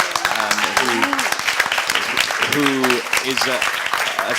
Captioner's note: audience claps